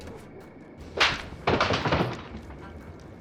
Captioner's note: falling objects